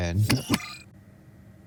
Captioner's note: button sound